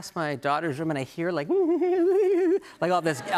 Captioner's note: giggling